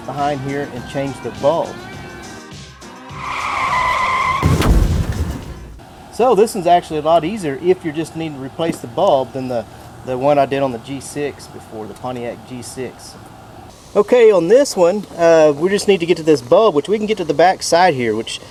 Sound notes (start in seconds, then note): 3.2 screeching tires; 3.6 explosion